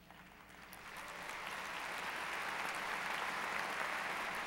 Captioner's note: applause